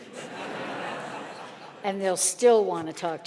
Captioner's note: audience laughing